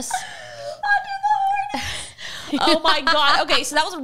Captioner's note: laughing